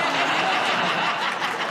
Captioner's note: laughter